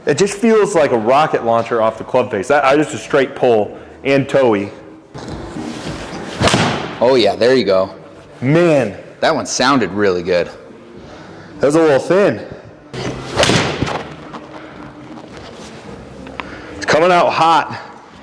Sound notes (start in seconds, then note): 6.3 club thuds; 13.0 club thuds; 14.6 indistinct background music